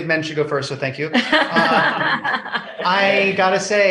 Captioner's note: laughs